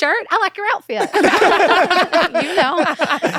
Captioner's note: laughter